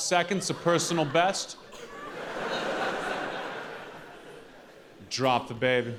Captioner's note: audience laughing